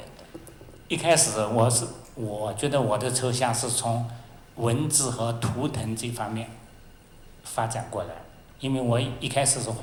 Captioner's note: Mandarin